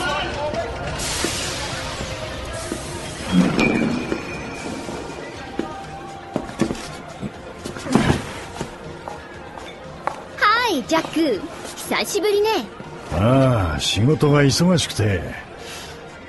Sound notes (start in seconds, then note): 9.9 high-heel footsteps